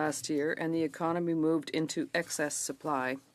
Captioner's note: speaking French